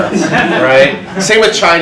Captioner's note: audience laughs